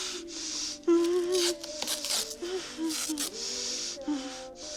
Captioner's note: whimpers